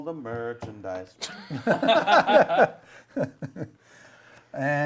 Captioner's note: laughter